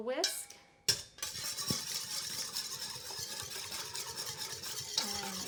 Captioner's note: stirring